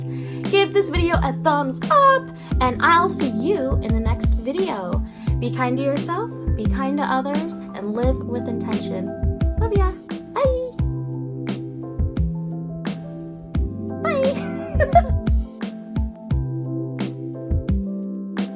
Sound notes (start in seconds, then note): 14.2 laughing